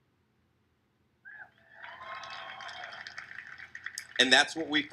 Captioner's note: crowd cheers